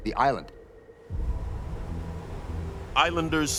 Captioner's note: waves roaring